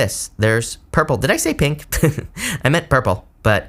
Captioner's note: laughs